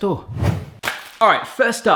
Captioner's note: whooshing